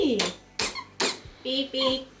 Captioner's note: button squeaks